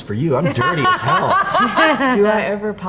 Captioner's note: interviewee laughs